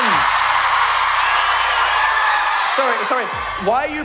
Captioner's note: screaming